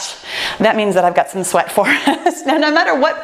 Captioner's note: laughs